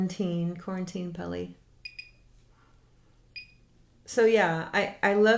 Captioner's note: machine beeping